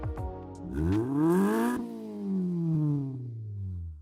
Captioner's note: engine revs